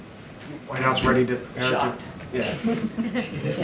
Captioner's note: laughter